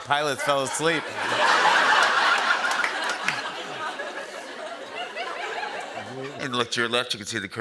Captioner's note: laughter